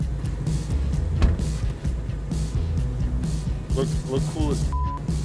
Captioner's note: car door slams